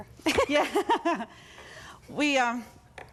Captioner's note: both laugh